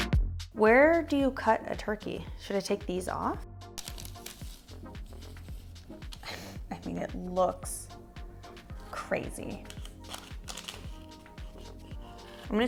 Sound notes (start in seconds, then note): 3.8 paper rustling sound; 4.4 upbeat music; 9.4 paper crackling sound; 9.7 upbeat music